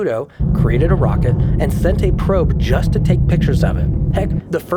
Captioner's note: rocket rumbling